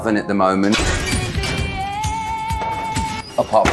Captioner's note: metal door opens, upbeat music